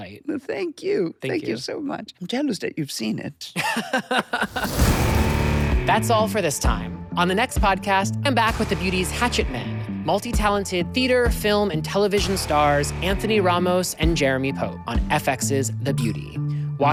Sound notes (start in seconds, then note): 3.6 laughs